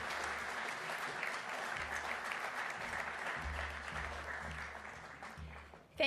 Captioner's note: applause